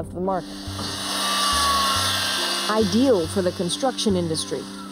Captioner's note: saw buzzing